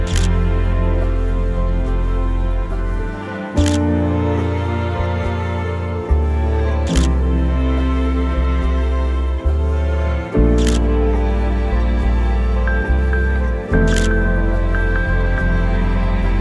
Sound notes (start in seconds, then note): 0.0 camera shutter clicks; 3.6 camera shutter clicks; 6.9 camera shutter clicks; 10.6 camera shutter clicks